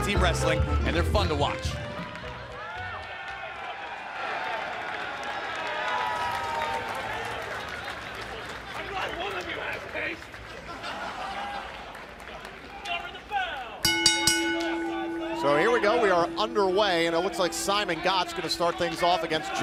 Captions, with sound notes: HAVE EVER SEEN IN TAG-TEAM WRESTLING AND THEY ARE FUN TO WATCH. [CHEERS AND APPLAUSE] [BELL RINGING] >> SO HERE WE GO. WE ARE UNDER WAY. AND IT LOOKS LIKE SIMON GOTCH